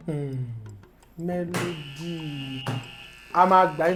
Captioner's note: buzzer sounds